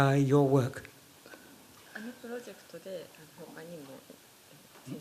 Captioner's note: speaking japanese